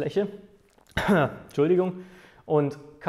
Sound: cough

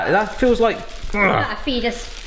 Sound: grunts

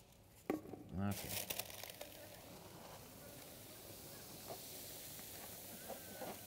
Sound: hissing sound

